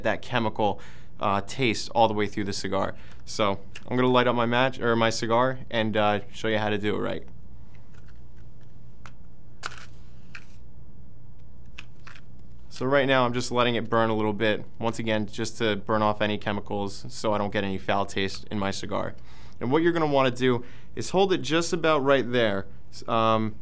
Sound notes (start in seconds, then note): 9.6 match strikes box